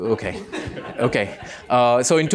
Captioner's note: laughter